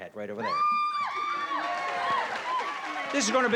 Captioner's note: cheering